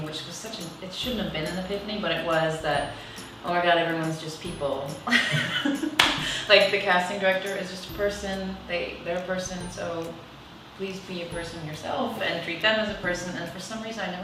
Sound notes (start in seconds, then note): 5.1 laughs